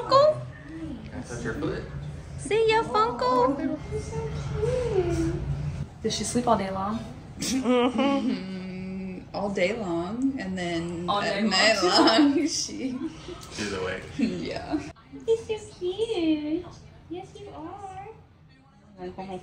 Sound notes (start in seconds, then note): 7.4 laughing; 11.8 laughing